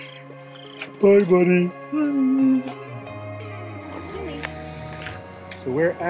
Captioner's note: yawns